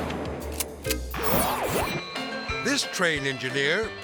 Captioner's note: rifle fires; logo whooshes